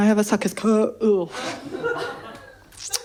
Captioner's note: sick noise